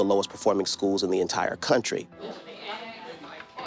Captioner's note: students chatter